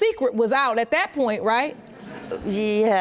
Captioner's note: audience chuckles